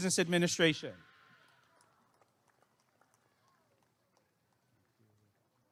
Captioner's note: applause and cheering